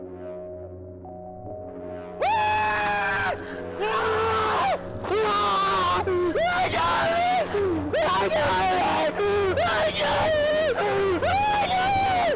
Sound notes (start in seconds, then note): 2.2 loud screaming; 7.8 screaming